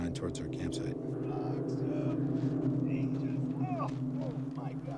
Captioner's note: grunting